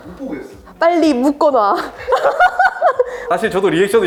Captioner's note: laughs